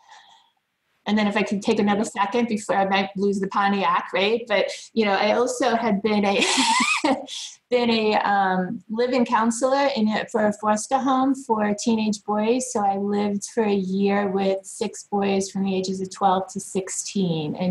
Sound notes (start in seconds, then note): 6.4 laughs